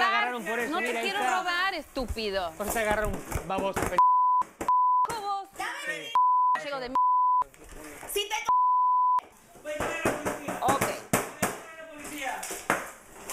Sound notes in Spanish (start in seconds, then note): 4.1 Bip